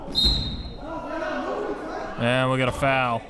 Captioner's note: whistle blows